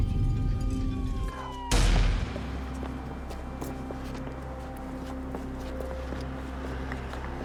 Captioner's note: siren wailing; gunshot blasts